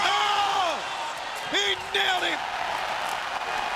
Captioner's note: commentators exclaim